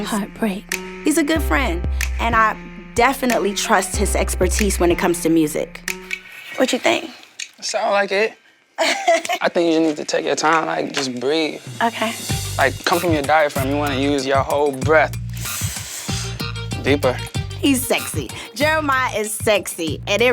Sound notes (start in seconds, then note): 8.8 laughing; 15.3 breathes in